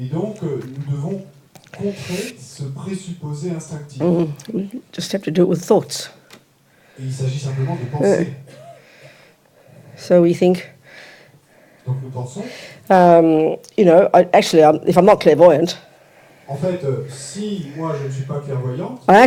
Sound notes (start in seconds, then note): 0.1 French; 6.1 French; 11.1 French; 16.1 French